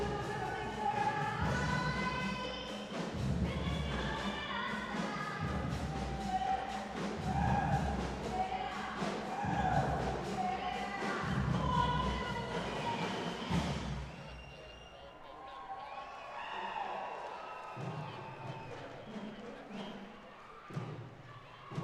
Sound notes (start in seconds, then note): 15.6 audience cheering; 18.0 rhythmic percussion music